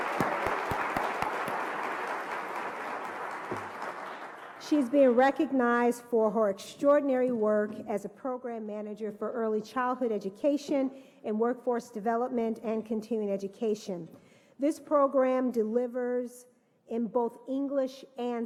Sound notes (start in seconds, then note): 0.0 applause